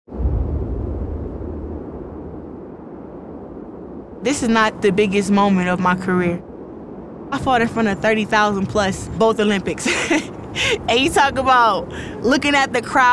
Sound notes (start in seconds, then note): 0.8 wind rushing; 9.8 laughs